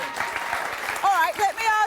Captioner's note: crowd applauds